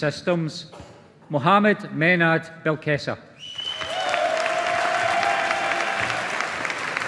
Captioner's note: audience applauding